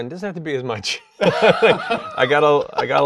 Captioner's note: laughs